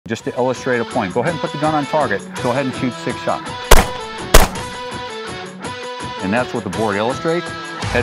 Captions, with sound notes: - Just to illustrate a point, go ahead and put the gun on target. Go ahead and shoot six shots. (gun popping) And that's what the board illustrates.